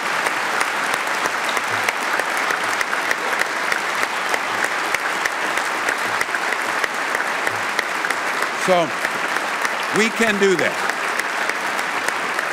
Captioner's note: applause